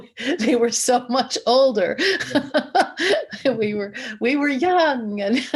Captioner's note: laughs